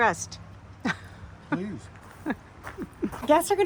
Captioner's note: chuckling